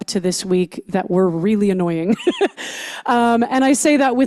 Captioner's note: laughs